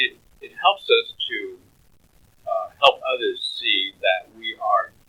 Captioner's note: laughs